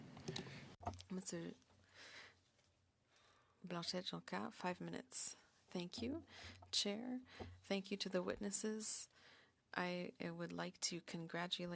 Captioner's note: speaking French